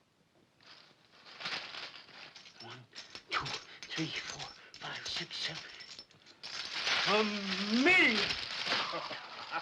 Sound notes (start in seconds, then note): 1.2 coins clinking; 7.7 coins clinking